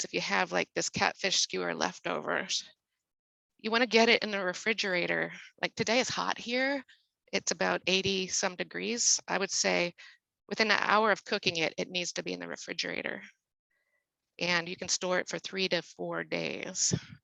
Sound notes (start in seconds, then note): none